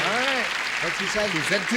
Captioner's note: applause